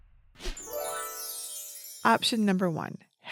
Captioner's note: graphic dinging